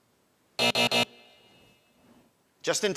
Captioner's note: alarm buzzes